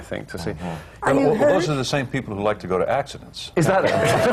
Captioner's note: laughter